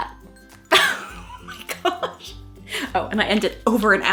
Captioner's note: laughing